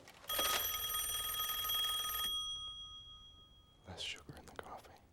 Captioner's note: rings